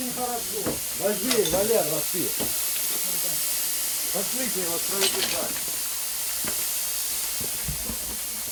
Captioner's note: pipes hissing in mine